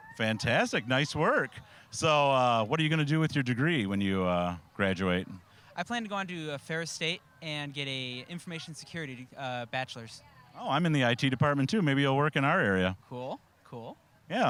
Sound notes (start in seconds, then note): none